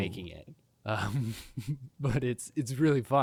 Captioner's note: chuckling